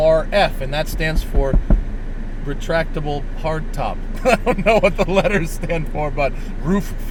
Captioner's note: laughs